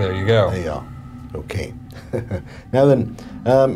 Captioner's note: chuckling